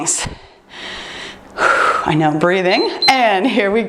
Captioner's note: exhaling; timer beeps